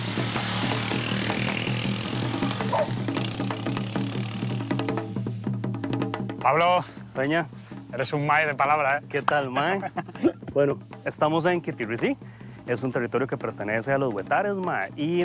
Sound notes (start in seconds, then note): 2.6 barking